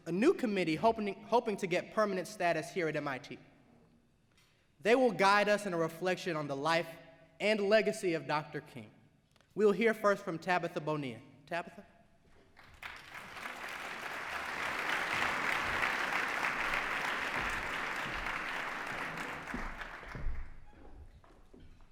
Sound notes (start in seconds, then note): 12.5 applause